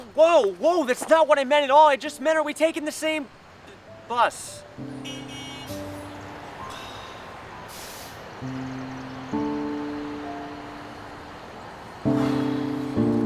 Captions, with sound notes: Whoa! Whoa! That's not what I meant at all! I just meant "are we taking the same bus?" [Bus Honk] [Sigh]